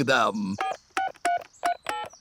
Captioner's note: dialing phone